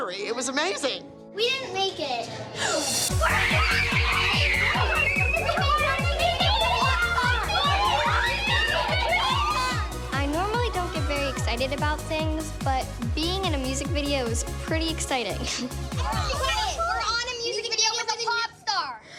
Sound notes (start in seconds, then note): 3.1 girls screaming in excitement; 6.2 girls chattering excitedly